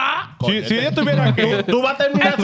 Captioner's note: speaking In Foreign Language